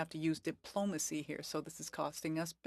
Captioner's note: speaking French